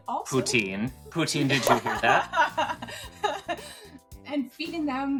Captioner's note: laughs